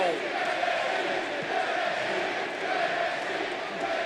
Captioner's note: crowd chants "NXT"